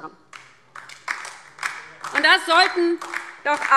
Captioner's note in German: Beifall DIE LINKE